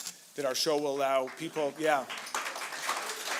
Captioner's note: applause